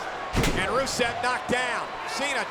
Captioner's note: blow thudding; body thudding